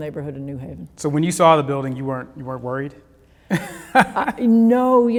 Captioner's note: laughs